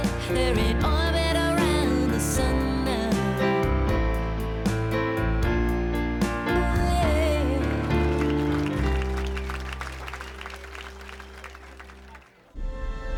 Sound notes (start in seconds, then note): 8.8 applause